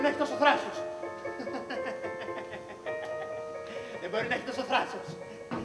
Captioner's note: υστερικό γέλιο